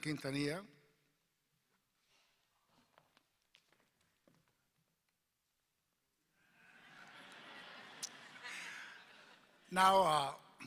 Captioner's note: laughter